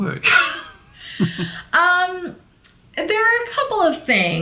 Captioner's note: laughing